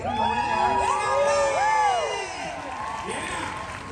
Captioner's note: audience cheering